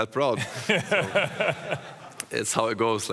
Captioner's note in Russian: смех